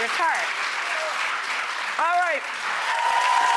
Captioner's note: clapping